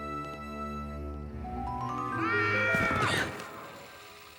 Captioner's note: screaming